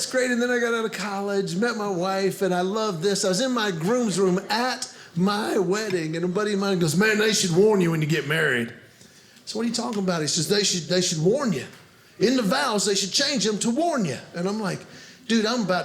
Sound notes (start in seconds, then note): none